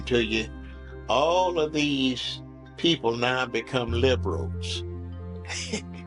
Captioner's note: chuckles